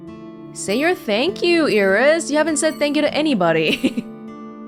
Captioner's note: chuckles